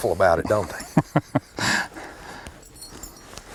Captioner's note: laughter